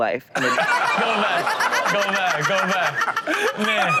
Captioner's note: Chanel laughs